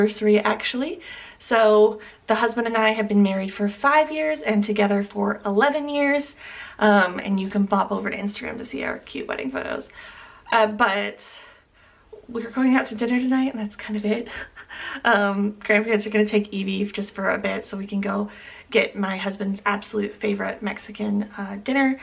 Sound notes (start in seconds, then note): 14.3 chuckle